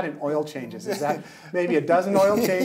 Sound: laughing

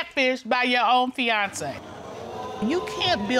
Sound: audience exclaiming

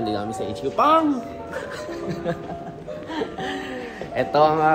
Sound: laughing

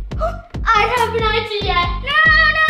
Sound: gasps

